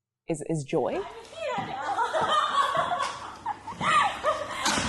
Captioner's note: laughing